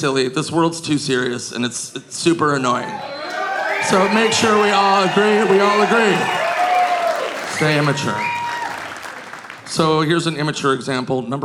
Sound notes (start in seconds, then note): 2.7 audience cheering